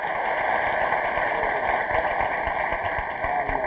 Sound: audience applauds

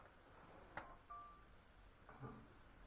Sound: phone alert

